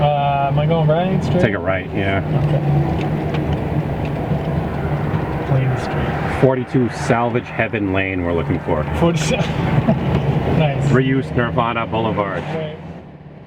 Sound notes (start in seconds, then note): 10.0 laughs